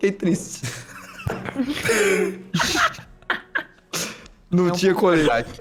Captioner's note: laughs